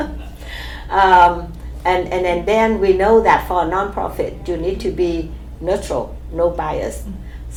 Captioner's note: laughs